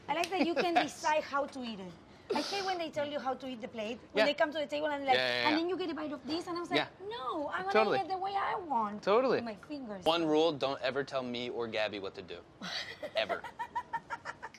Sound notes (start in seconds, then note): 12.6 laughs